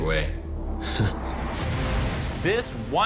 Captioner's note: laughs dryly